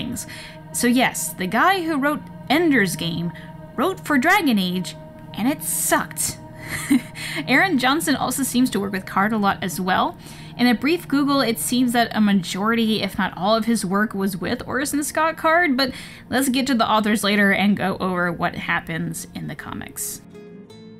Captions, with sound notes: So yes, the guy who wrote Ender's Game wrote for Dragon Age, and it sucked. *nervous chuckle* Aaron Johnston also seems to work with Card a lot as well. In a brief Google, it seems that a majority, if not all, of his work was with Orson Scott Card. But let's get to the authors later and go over what happens in the comics.